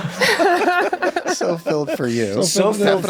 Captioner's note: laughs